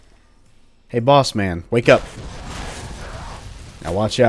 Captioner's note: fwoosh